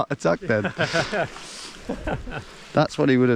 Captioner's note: laughing